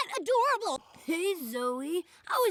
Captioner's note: sexy voice activated